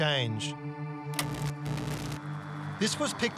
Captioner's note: static crackles